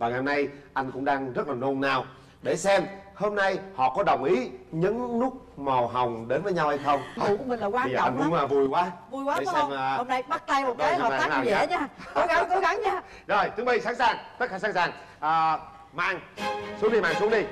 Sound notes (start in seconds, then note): 12.5 laugh